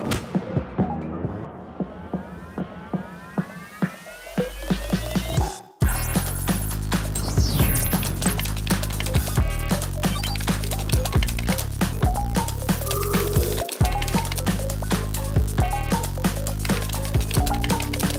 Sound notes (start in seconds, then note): 0.1 upbeat music; 8.0 keys tapping; 8.3 upbeat music